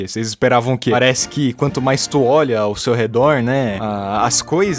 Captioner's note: "Right?" in portuguese and japanese